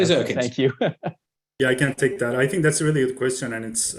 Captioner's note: laughs